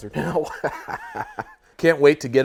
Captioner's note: laughs